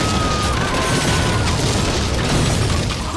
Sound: people screaming

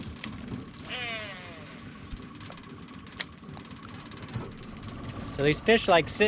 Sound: reel spinning

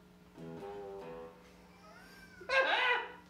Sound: guitar riff; laughing

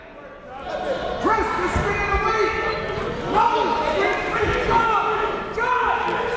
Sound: coaches and players yelling

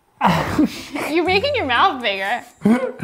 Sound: laughs

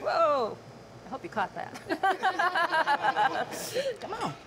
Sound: laughs

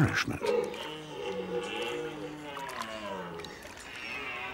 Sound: red deer calling

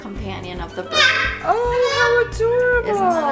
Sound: bird squawking very loudly

